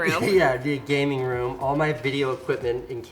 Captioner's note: laughs